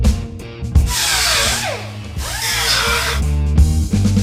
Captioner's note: grinding